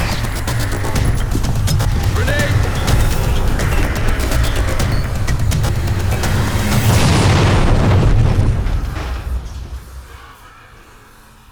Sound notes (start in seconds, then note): 0.0 gunshots; 9.8 explosion